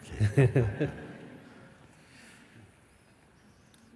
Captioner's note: questioner laughs